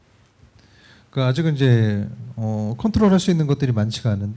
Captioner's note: speaking korean